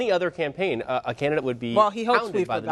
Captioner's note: laughs